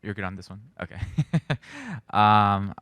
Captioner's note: chuckles